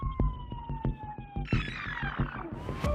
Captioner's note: tape rewinding